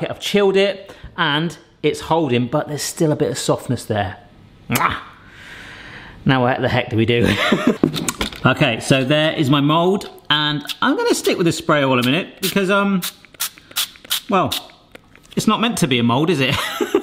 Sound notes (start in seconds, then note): 5.3 lips smacking; 7.2 laughing; 16.6 laughing